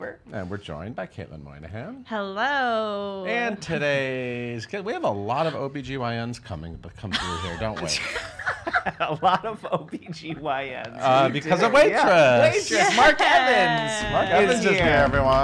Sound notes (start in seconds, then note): 7.2 laughing